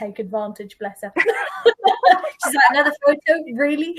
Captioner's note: laughing